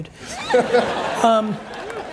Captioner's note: audience laughs; applauds